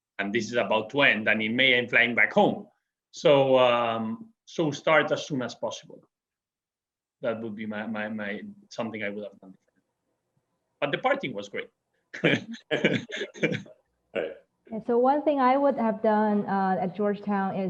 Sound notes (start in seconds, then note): 12.1 chuckles